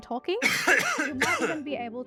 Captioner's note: person coughs